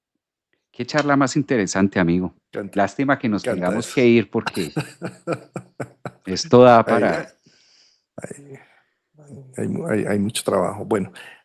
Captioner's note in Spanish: risas